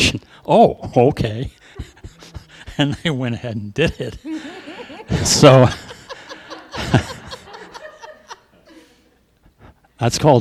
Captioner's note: laughter